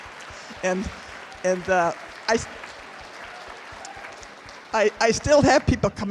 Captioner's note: laughter